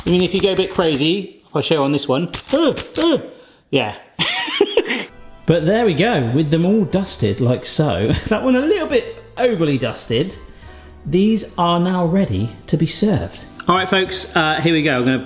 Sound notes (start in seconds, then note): 2.5 sieve clicks twice; 4.2 laughs